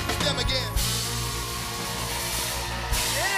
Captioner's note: cheers and applause